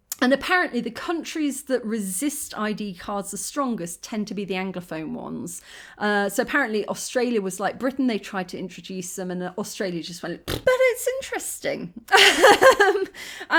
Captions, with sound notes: And, apparently, the countries that resist ID cards the strongest, tend to be the anglophone ones. So, apparently Australia was like Britain, they tried to introduce them and Australia just went [blows raspberry]. But it's interesting. [laughing]